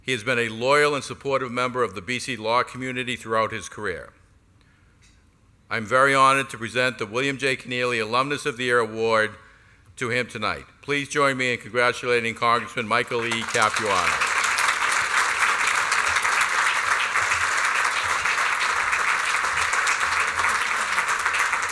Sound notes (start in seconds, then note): 13.0 applause